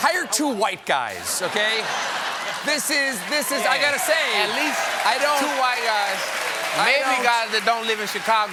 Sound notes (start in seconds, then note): 1.1 laughter; 3.1 applause